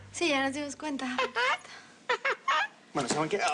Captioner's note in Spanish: Risas